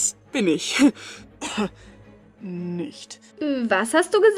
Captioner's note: coughs